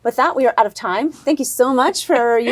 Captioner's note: laughs